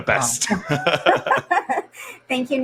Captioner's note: laughs